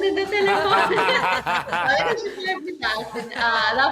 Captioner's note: laughing